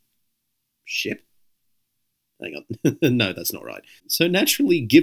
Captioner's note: chuckles